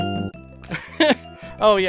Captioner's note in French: qui rit